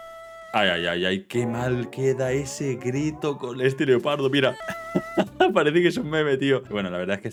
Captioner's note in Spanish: risas